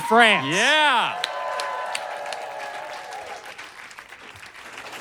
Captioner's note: audience cheers and applauds